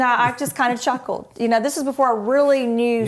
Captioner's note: laughter